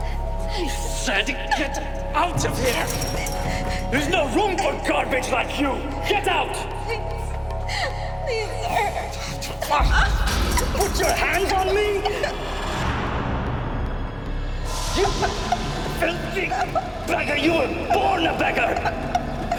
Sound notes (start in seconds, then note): 2.2 fence rattles; 10.8 Ghia cries